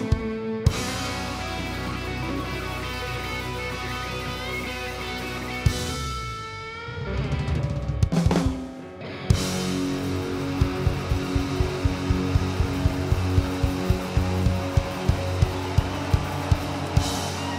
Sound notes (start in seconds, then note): 14.0 audience cheers